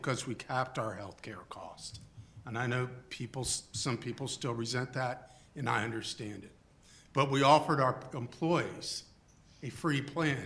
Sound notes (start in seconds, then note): none